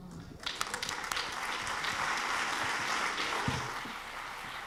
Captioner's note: audience clapping